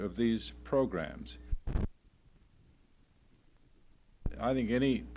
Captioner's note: silence